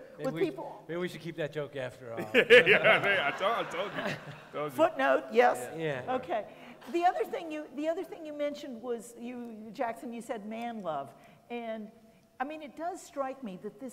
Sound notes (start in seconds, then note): 2.2 laughing